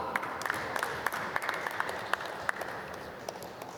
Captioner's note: applause